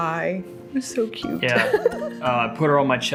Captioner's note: laughs